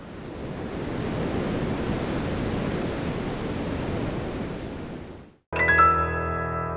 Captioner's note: surf roaring